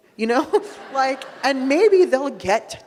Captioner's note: audience laughing